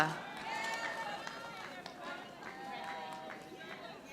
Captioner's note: audience applauding